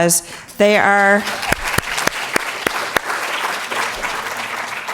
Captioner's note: audience applauding